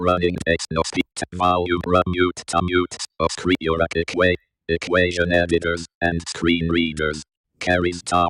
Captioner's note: NVDA speaking